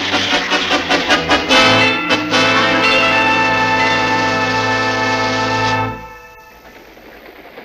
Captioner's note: train Signal, signals train on the way